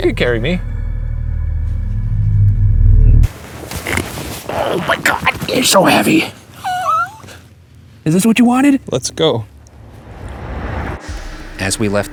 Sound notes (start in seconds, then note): 7.0 laughs; 9.6 tense music